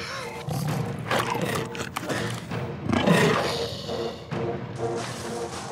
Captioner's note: snarls